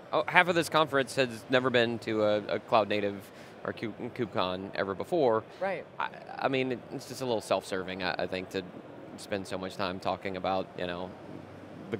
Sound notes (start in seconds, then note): none